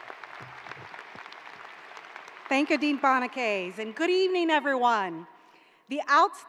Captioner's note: applause